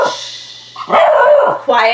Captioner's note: Max barks